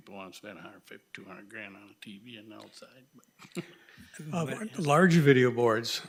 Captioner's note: laughs